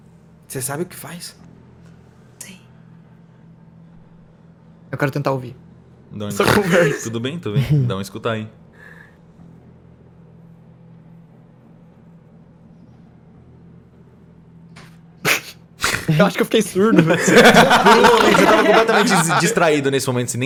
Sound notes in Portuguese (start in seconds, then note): 15.2 risada; 16.8 risada